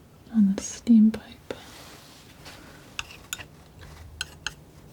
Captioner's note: scissors snipping